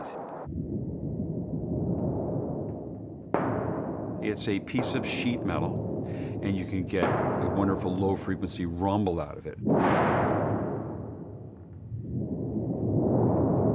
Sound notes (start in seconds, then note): 0.2 rumbling; 2.6 low rumbling; 11.5 shuddering